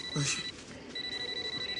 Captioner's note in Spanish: Suena el celular